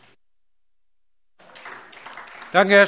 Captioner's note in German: Beifall AfD